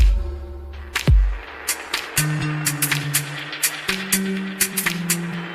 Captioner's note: applause